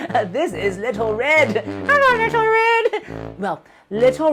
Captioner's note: speaking elvish